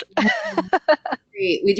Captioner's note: laughs